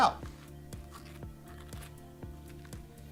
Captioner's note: scrapping; mellow music